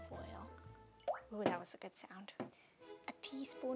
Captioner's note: oil guggling